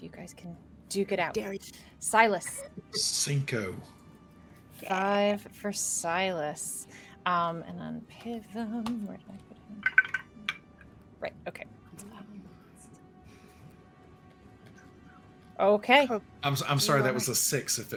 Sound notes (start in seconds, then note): 2.4 laughs; 9.8 dice rattling